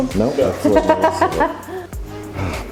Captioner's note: laughing